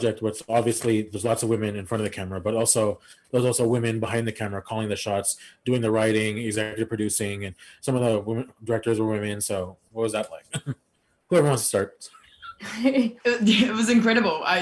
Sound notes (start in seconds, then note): 12.7 women chuckle